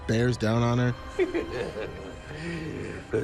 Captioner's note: pennywise laughs